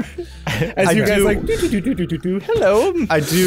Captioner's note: soft floating noises